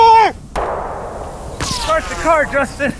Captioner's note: gunshot cracking; bullets whizzing